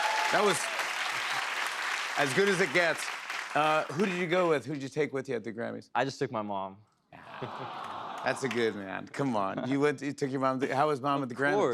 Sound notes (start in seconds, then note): 7.3 audience awws